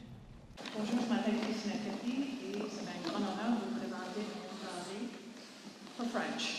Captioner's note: speaking french